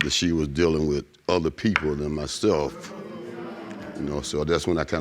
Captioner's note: audience gasping